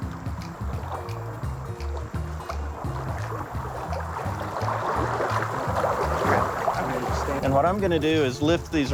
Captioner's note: water sloshing